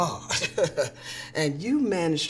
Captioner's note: laughing